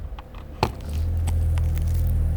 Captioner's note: quiet roaring